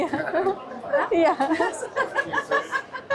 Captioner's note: laughs